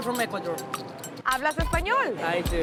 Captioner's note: speaking in foreign language